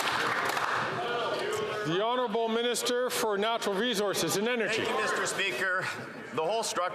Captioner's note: some Applause